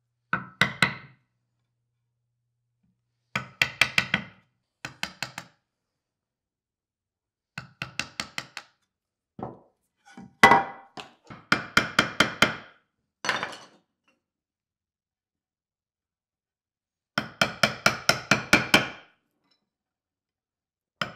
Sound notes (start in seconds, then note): 0.1 chisel pounding; 17.1 chisel pounding